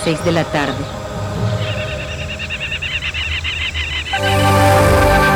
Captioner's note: birds